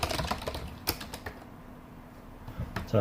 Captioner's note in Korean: 키보드 치는 소리